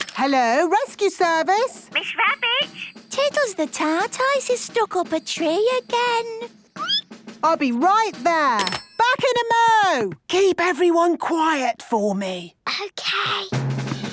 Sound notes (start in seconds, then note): 6.6 squeaking